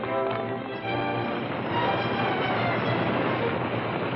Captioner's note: horses galloping; action music